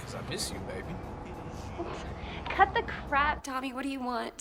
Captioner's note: Nicki scoffs